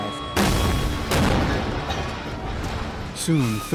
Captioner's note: explosions; voiceover